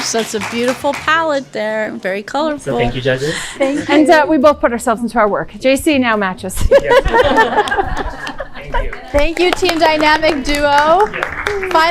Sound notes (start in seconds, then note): 6.6 laughing